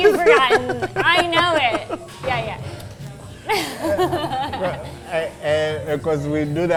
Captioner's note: laughing